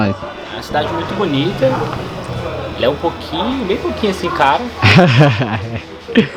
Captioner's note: sarcastic laugh